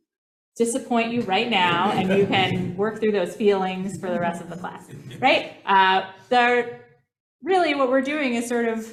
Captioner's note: laughter